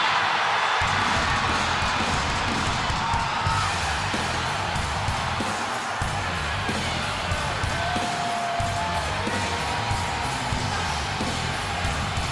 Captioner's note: crowd cheers